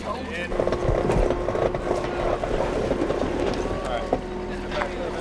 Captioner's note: engine revving